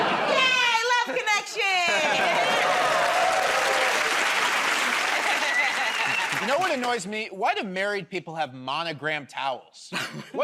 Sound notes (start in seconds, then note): 4.7 cheers and applause